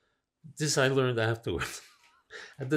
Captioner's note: laughing